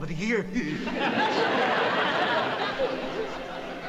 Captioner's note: laughs